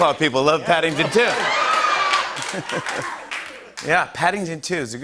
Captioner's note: laughter, cheers, applause